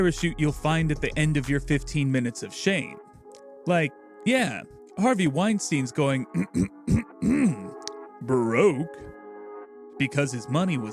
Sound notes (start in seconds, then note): 6.3 ahem